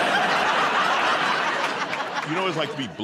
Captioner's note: laughter